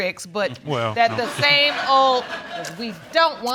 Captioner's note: audience laughing